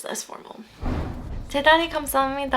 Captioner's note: foreign language; whooshing; foreign language